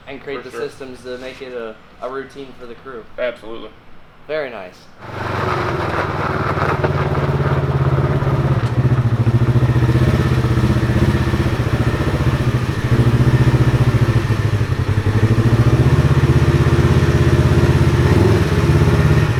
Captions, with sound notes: - And create the systems to make it a, a routine for the crew. - Absolutely. - Very nice. (engine running)